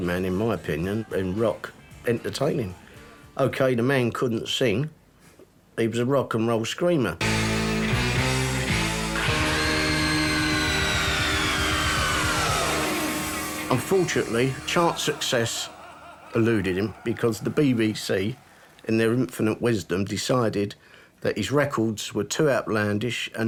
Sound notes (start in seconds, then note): 7.3 rock music; 9.3 screaming